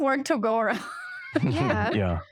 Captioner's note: laughter